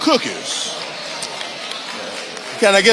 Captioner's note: audience applauding